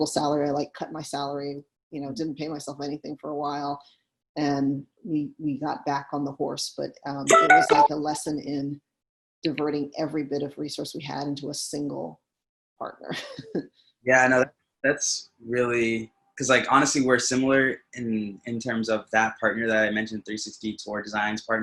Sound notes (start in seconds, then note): 8.8 phone rings; 14.1 laughs